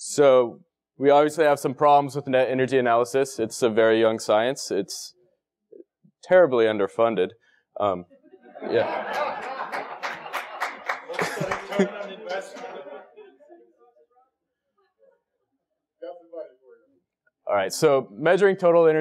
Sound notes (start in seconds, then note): 8.1 laugh; 9.1 applause